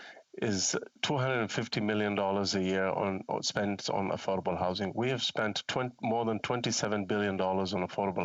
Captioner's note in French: voix de l'interprète